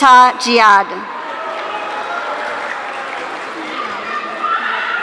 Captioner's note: audience cheering